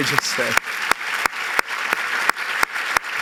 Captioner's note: applause